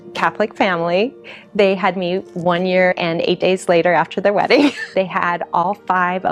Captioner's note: laughs